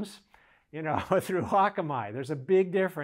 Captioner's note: laughs